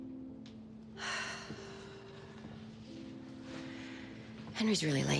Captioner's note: Bridget sighs